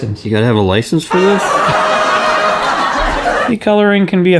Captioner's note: laughs